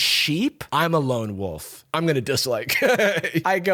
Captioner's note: laughs